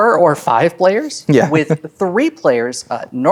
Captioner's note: chuckles